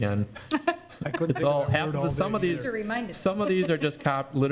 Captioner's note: laughs